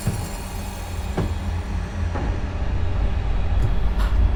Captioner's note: footsteps